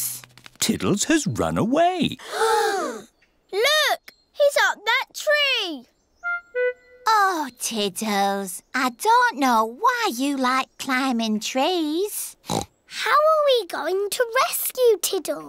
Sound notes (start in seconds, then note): 2.2 all gasp; 12.4 oinks